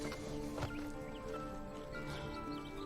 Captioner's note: Charly sighs